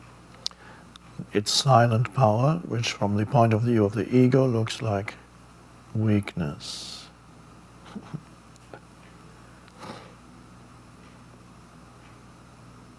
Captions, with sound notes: It's silent power, which from the point of view of the ego looks like weakness. (chuckles)